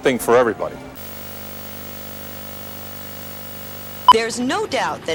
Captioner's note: television static